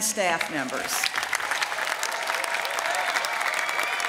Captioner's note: applause